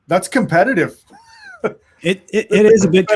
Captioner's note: chuckles